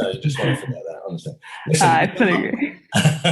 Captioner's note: murmurs